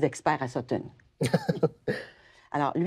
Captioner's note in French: rires